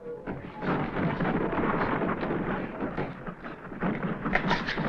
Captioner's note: door rattling